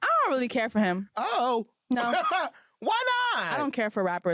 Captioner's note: laughs